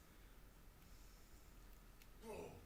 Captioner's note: performer breathes deeply; performer yelps